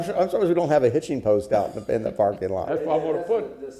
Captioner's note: laughter